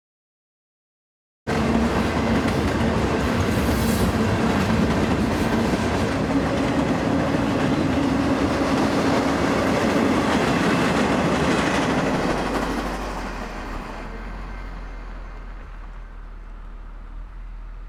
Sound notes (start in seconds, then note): 1.5 train rumbling